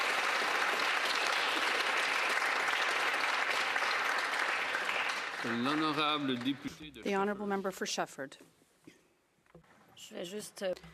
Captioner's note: applause